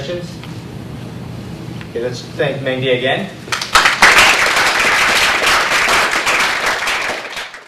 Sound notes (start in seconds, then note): 3.5 applause